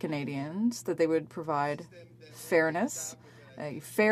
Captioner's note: speaking French